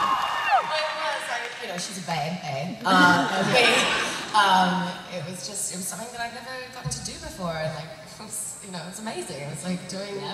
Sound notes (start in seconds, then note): 0.0 cheers; 3.1 laughter